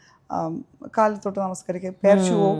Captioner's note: non-english Speech